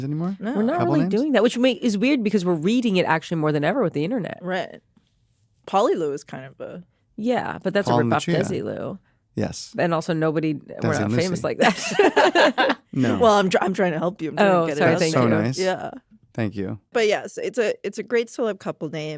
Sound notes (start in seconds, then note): 11.5 laugh